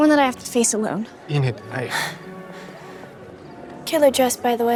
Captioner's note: Enid gasping